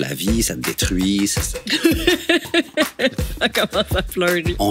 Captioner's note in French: rire